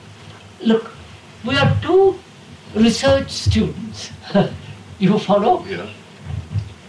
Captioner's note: laughs